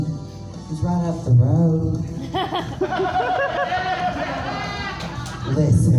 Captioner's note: audience chuckles